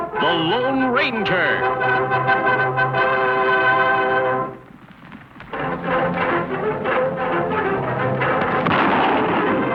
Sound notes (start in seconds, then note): 8.4 gun firing